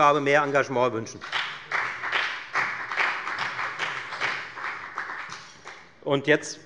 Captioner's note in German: Beifall bei der FDP